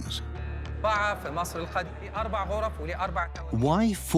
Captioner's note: Arabic dubbed in English